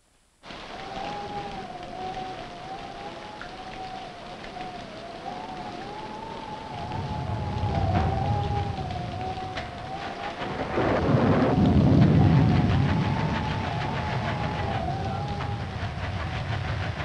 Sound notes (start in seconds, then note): 0.2 rain pattering; 0.2 wind howling; 6.8 engine sputtering; 6.8 thunder rumbling